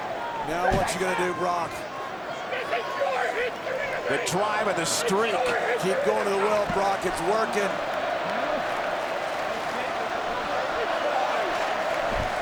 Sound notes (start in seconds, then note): 8.5 crowd clamoring